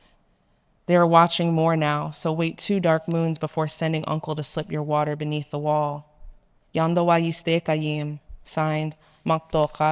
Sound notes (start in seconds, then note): 6.7 speaking in foreign language